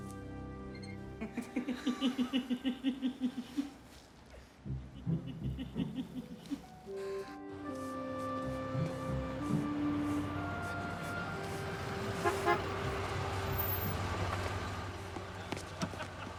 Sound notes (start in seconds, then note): 1.2 giggles; 4.6 playful orchestral music; 12.4 horn honks